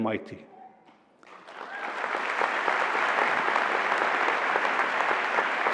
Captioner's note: applause